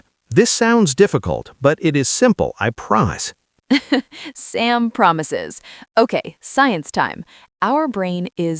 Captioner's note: laughs